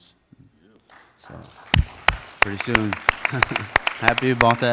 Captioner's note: applauding